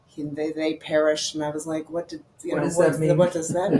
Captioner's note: laughing